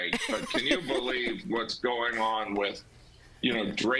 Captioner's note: laughter